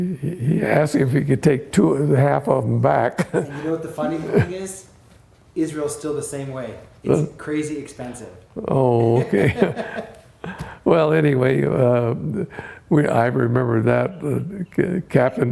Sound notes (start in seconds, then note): 9.0 laughter